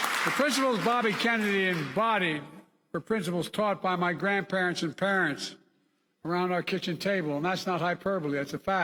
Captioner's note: applause